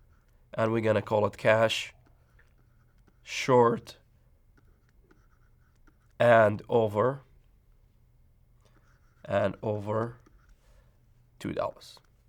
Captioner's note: writing sounds